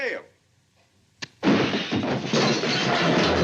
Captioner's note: crash